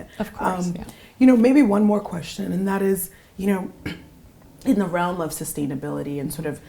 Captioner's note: cough